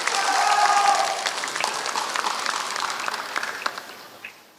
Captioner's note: applause